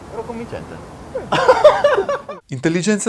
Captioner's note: laughs